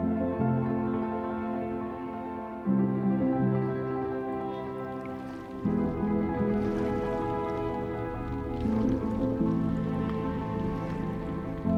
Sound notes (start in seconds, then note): 2.7 warm music; 8.2 water sloshes